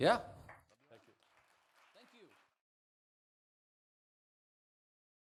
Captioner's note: audience claps